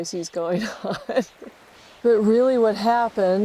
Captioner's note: chuckles